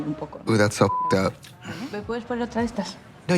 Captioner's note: beep